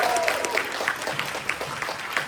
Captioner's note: applause